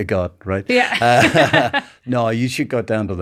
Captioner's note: laughing